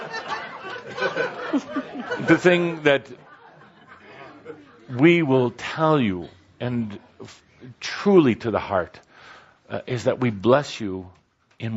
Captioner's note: laughter